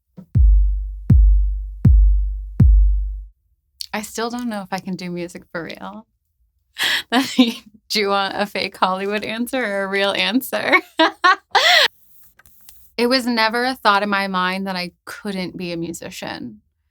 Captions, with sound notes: I still don't know if I can do music for real. (chuckles) Do you want a fake Hollywood answer a real answer? (laughs) It was never a thought in my mind that I couldn't be a musician.